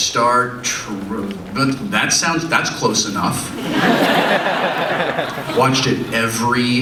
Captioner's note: audience laughs